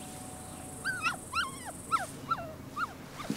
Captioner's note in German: Aufgeregtes Winseln